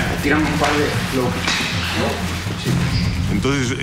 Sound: speaking in Spanish

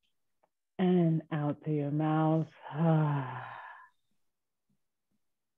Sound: exhaling

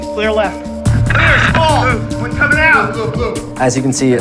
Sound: shouting

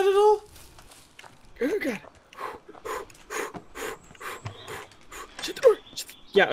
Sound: fast Breathing

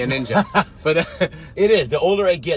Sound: laughs

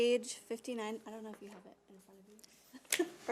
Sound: voice trailing off

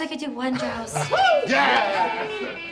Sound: all cheering

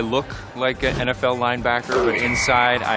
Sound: whistle

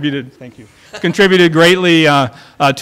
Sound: laughter

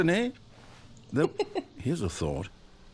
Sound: laughter

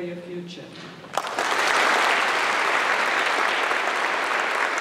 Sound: applause

